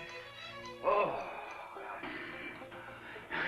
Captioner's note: groans